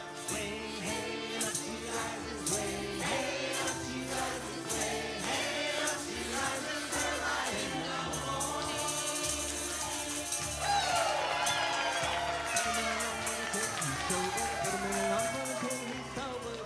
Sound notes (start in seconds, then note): 9.2 audience applauding; 10.5 audience cheering